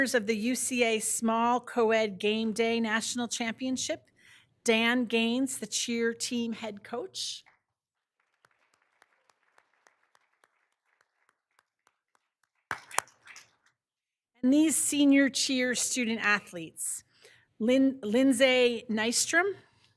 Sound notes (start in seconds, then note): 7.9 all applauding